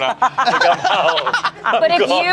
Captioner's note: everyone laughs